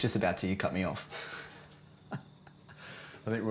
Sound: laughter

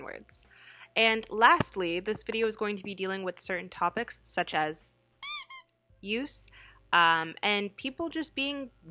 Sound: rubber duck noise

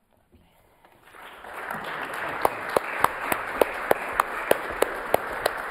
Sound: audience applauds

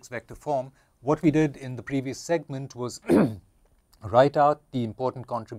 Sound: cough

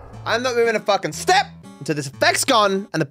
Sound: none

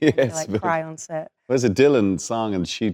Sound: laughing

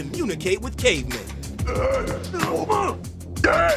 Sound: grunting

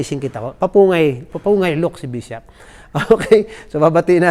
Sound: laughs

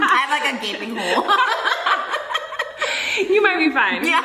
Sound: both laughing

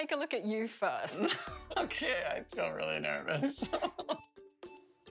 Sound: laughter

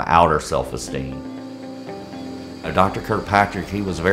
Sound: operating room sounds

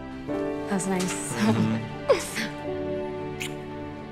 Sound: giggles

